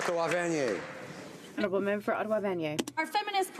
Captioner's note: some Applause